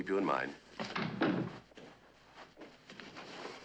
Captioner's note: door closing